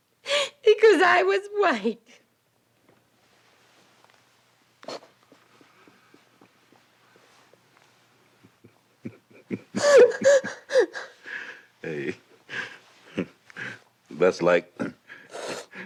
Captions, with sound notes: because I was white. [sobs] [chuckles] - Hey. That's like,